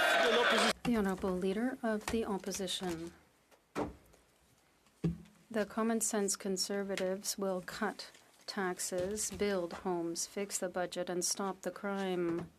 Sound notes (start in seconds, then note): 0.0 some Applause; 3.8 speaking French